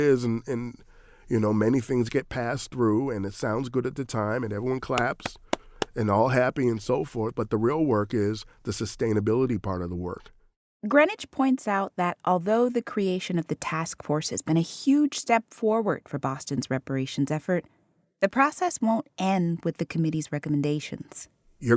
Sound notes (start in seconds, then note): 5.2 applauding